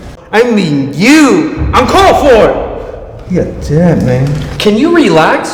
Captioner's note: mocking